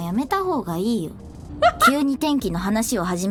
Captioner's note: laughs